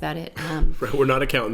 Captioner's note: laughing